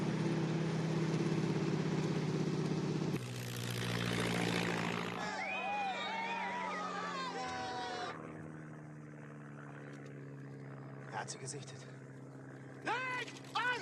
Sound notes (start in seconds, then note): 11.5 speaking in german